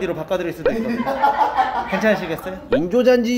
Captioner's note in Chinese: 哈哈哈哈哈哈哈哈哈; 哈哈哈哈哈哈哈哈哈哈